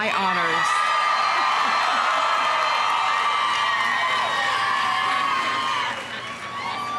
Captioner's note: audience cheering; audience applauding